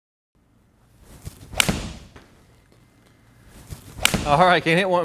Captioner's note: golf ball whooshing; club striking